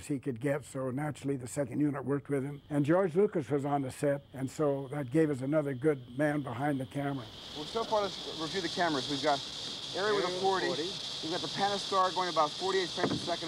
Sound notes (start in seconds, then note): none